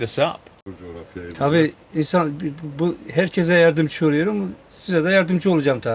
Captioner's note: speaks foreign language